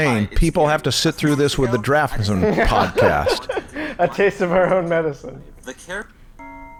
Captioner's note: chuckles